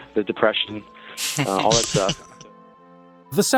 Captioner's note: laughing